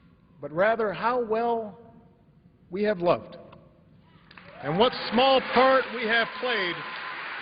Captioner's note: applause